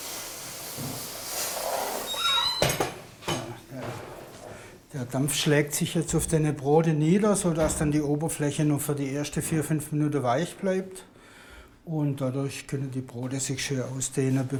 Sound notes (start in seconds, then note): 2.0 squeaking